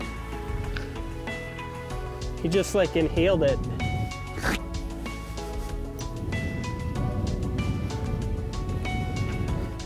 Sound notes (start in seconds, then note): 4.3 inhales